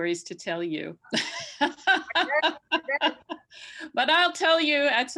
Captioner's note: laughs